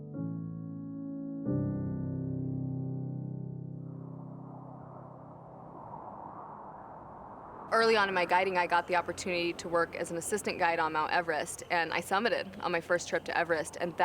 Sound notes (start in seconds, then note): 0.0 peaceful piano music; 4.1 wind blowing